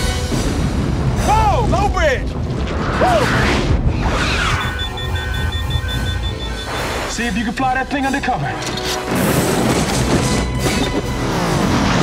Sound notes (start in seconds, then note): 3.0 ships whooshing